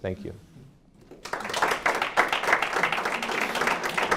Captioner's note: applause